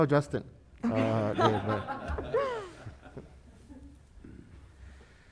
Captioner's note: panelists laughing